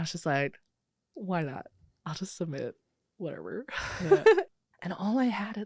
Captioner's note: laughs